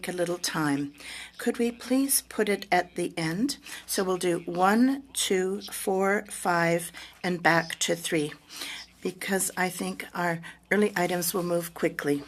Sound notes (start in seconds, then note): 1.1 speaking French